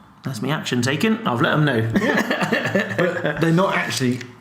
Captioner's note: laughs